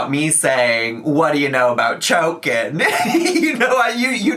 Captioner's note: laughs